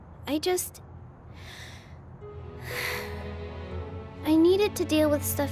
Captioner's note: sigh